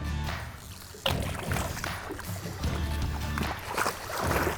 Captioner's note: water sloshes